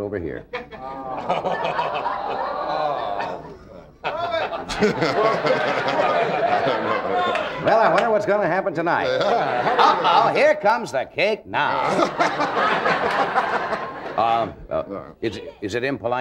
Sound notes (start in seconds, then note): 0.5 audience laughing; 11.7 audience laughing